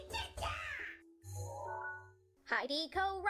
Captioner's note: digital sound effect